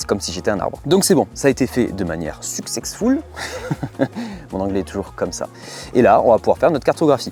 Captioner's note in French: rires